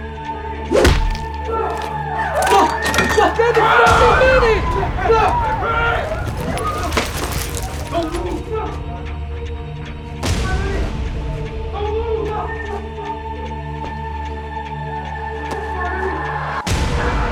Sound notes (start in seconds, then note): 0.7 foot thuds; 5.0 people screaming; 13.6 tense suspenseful music